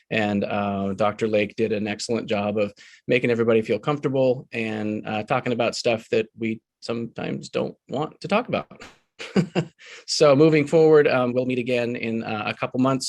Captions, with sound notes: And Dr. Lake did an excellent job of making everybody feel comfortable and talking about stuff that we sometimes don't want to talk about. (chuckles) So moving forward, we'll meet again in a couple months,